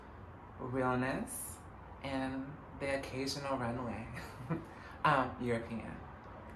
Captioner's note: laughs